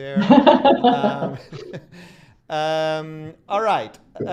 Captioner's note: laughter